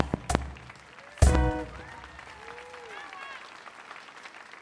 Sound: audience applauds

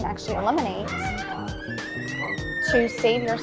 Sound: door squeaking

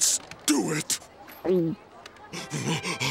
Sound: gulping; panting, spraying

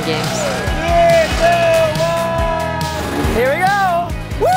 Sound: cheering

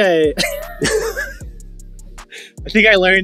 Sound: laughing

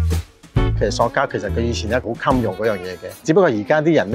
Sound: Cantonese

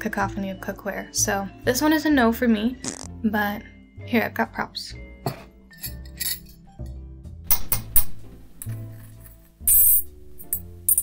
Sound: clanging spoon on bowl

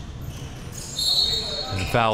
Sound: whistle

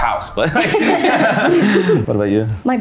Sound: everyone laughs

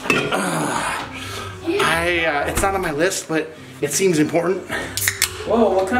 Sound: sighing

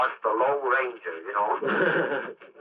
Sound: laughs

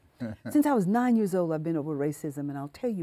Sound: laughing

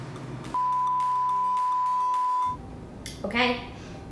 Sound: beep

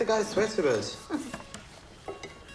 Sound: chuckles

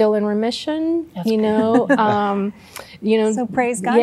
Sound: laughter

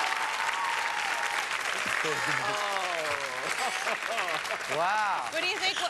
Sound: applause; laughs

